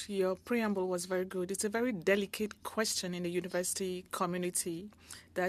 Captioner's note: speaking French